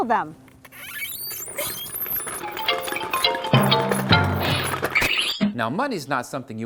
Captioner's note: sounds of cans on ground